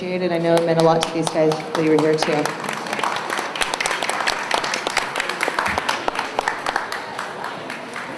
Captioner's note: applause